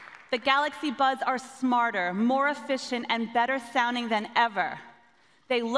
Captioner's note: applause